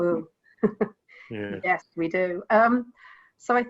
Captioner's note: laughs